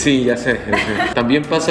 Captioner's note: giggles